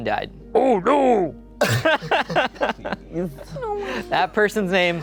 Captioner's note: laughing